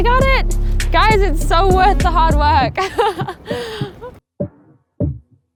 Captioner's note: laughs